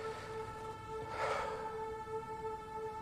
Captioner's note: sighs